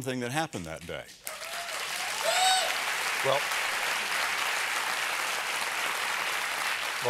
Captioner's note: applause